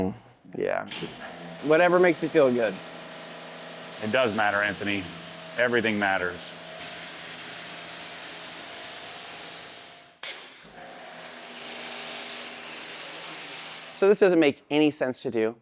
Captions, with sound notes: Yeah. Whatever makes it feel good. It does matter, Anthony. Everything matters. (water running) So this doesn't make any sense to do,